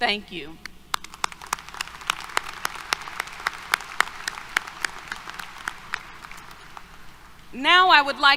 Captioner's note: applause